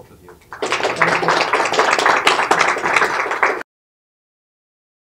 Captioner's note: applause